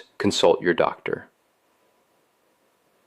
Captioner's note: pause